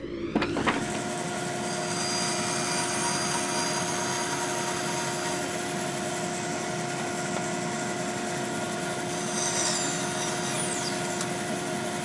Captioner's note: buzzing